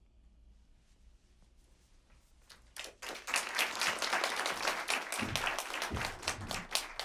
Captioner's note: applause